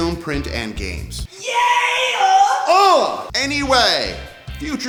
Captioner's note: grunts